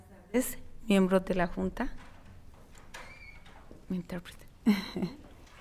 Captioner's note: speaking in foreign language